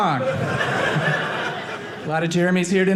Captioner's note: audience laughing